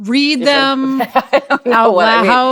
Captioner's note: chuckling